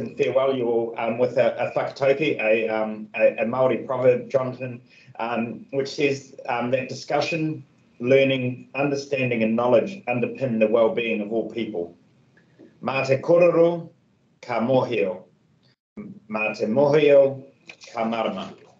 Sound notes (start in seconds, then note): 12.4 speaks in te reo Māori